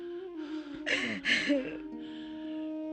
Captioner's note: sobbing